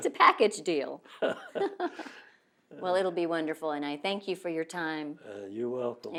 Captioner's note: laughs